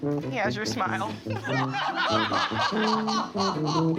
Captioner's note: laughing uproariously